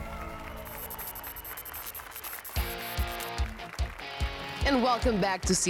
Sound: applause and cheers

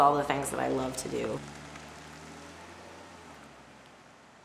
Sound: car driving away

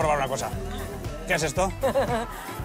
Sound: laughs

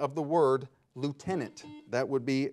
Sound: buzzer beeping

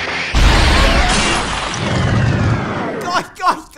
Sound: loud explosion

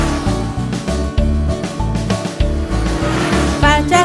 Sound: motorcycle sound: vroom

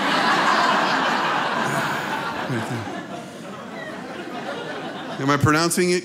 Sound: laughter

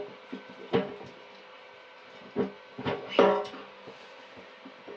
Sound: metal clanging

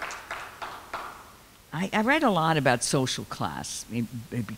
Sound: clapping

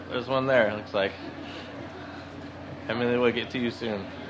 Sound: laughs

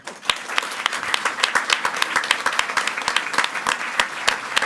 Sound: audience clapping

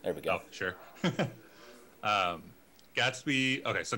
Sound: chuckling

